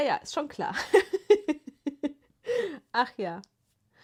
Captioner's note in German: gelächter